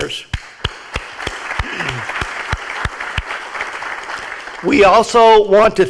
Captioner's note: clapping; audience applauding